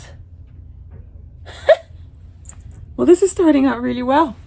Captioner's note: speaker laughs